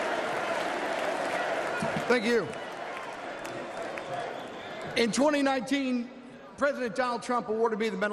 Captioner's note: chanting "u.s.a.!"; applause